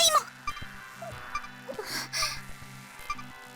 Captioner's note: nom